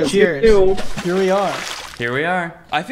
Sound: water splashes loudly

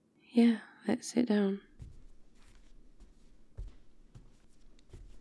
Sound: footsteps

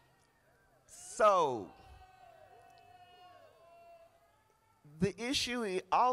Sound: crowd applauding

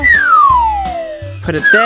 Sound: sliding

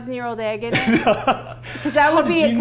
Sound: laughing

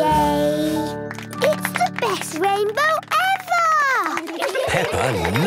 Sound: laughter

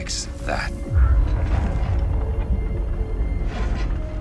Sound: loud booming

